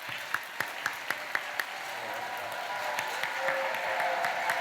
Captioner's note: cheering, applause